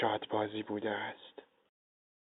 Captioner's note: narration in Farsi